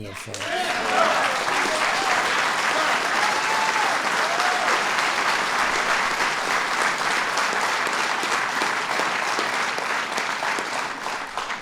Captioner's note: applause